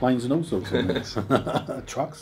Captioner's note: laughter